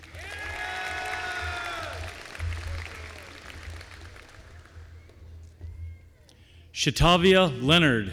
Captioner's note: applause